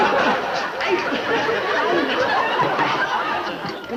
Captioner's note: audience laughing